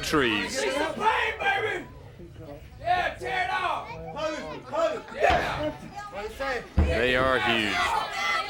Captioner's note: crowd chatter